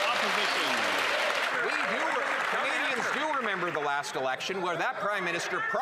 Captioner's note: cheers & Applause